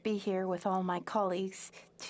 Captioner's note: speaking French